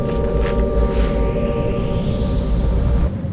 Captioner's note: electric hum strengthens; air displacement; ears ringing